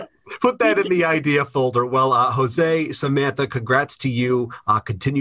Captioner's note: laughter